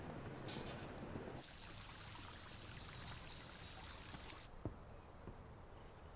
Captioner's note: water trickling softly